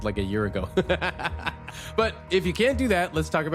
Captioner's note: laughs